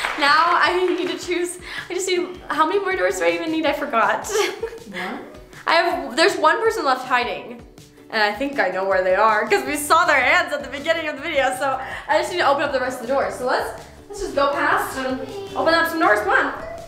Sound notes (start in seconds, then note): 4.2 giggles